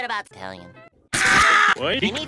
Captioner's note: Squidward Scream